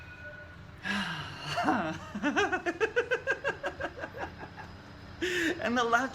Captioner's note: laughing